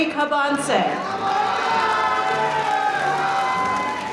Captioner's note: crowd cheering